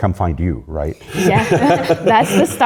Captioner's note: laughter